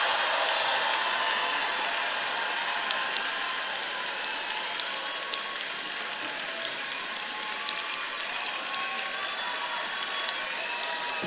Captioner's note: applause